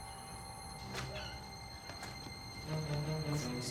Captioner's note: door opens, creaks